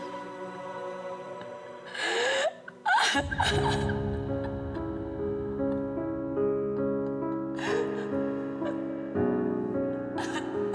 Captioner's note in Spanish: sollozos